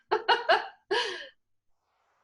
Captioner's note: laugh